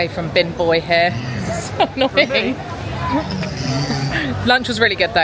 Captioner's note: laughing